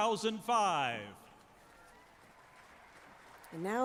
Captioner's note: applause